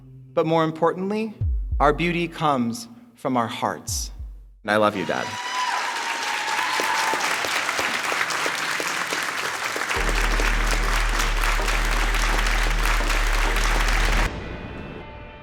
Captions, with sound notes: But more importantly, our beauty comes from our hearts. And I love you Dad. (audience claps)